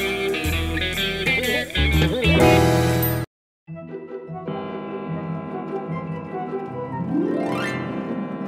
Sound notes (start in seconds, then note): 3.6 clock chiming